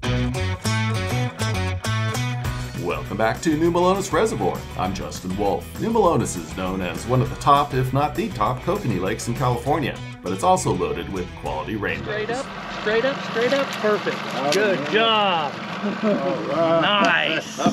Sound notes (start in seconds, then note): 12.7 boat engine idling; 15.1 fish splashing; 15.7 chuckling